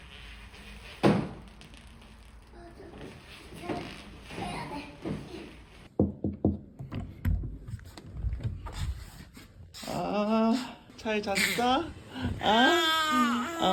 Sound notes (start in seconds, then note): 6.0 polite knock